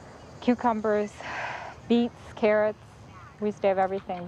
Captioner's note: exhales